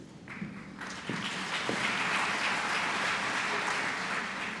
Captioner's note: applause